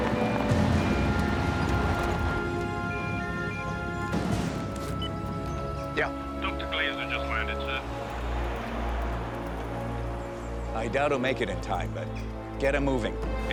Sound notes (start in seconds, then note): 2.7 ringing continues; 4.8 phone beeps